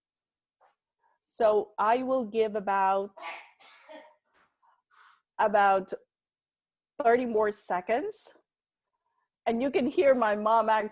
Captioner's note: sneeze in the background